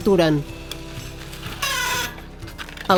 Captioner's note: squealing